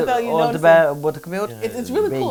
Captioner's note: speaking portuguese